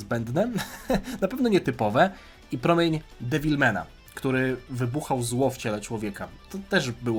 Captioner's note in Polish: śmiech